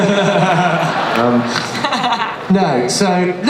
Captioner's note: laughter